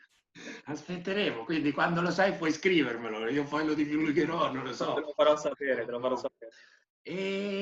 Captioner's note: laughing